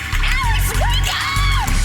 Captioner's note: snoring